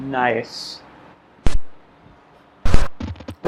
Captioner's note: Glitch